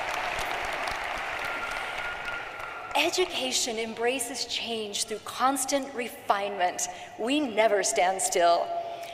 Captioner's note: cheering and applause